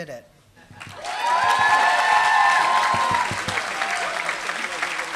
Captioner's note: applause